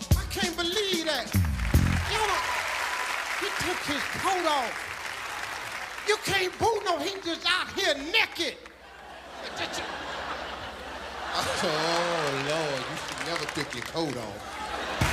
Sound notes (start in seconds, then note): 1.3 audience applauding; 8.8 audience laughing